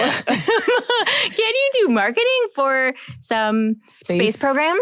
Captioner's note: laughs